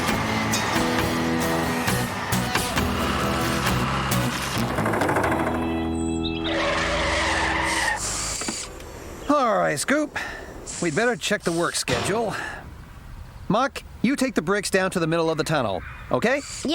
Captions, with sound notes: ( Engines Running ) ( Brakes Screeching ) ALL RIGHT, SCOOP, WE'D BETTER CHECK THE WORK SCHEDULE. MUCK, YOU TAKE THE BRICKS DOWN TO THE MIDDLE OF THE TUNNEL, OKAY?